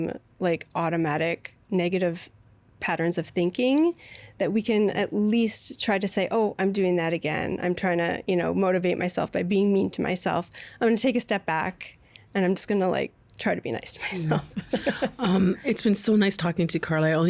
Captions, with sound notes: like, automatic negative patterns of thinking that we can at least try to say, "Oh, I'm doing that again. I'm trying to, you know, motivate myself by being mean to myself. I'm going to take a step back and I'm going to just like try to be nice to myself. (Chuckling) Um, it's been so nice talking to you, Carla.